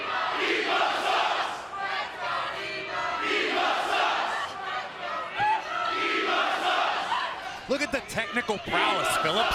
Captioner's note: fans chanting